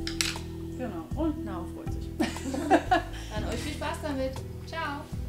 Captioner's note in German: lacht